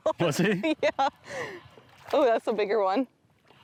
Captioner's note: laughs